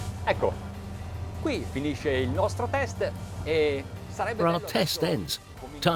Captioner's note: speaking foreign language